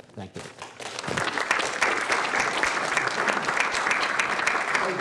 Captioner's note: applause